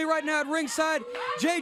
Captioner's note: crowd cheering